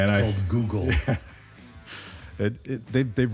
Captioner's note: laughs